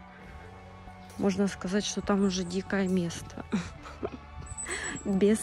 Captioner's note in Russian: усмешка